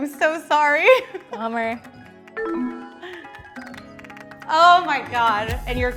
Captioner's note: descending chiming tone